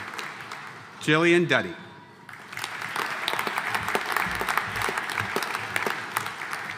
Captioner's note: audience applauding